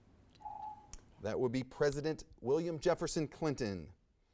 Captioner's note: timer dings